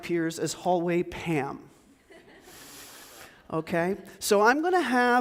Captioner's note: audience chuckles